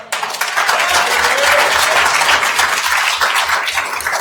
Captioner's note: attendees applauding